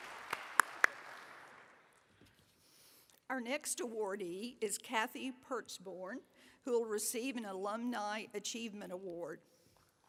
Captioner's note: applause